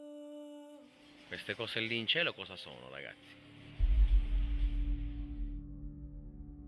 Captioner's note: speaking in foreign language